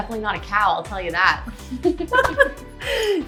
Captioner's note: both laughing